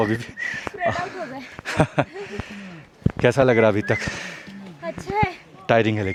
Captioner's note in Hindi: हंसी